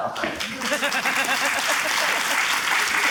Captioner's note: applause